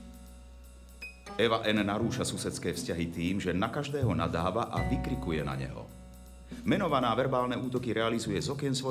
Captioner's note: voice of reporter